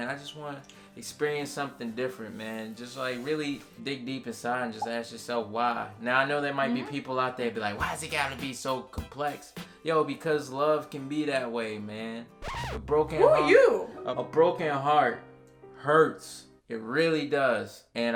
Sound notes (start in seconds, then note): 12.4 record scratching